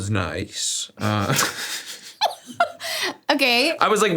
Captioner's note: both laugh